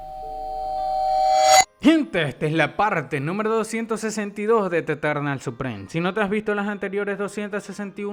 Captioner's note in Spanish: campana